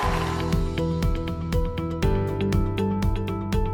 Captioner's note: cheers and applause